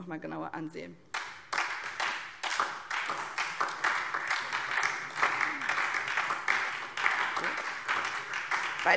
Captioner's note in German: Beifall SPD und DIE LINKE